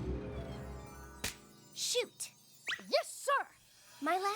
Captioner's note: snap!